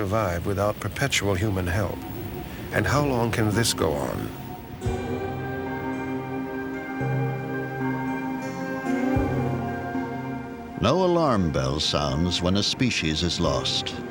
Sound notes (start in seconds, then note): none